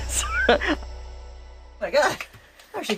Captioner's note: laughs